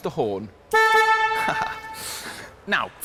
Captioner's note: horn blasts